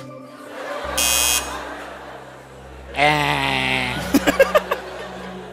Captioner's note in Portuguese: campainha